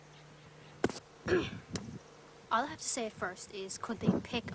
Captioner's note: clears throat